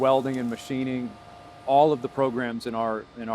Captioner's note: sparks crackling; machinery humming